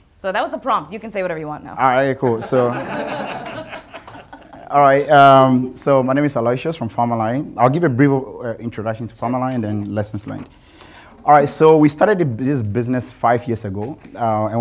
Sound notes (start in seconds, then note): 2.3 audience laughing